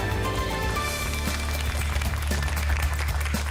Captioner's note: applause